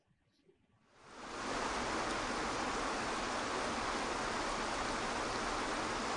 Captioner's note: cascading water splashing